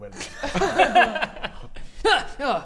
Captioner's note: cheeky laughs